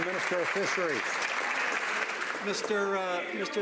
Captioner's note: some Applause